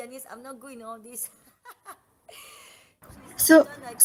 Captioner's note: laugh